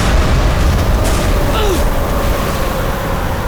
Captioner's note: grunting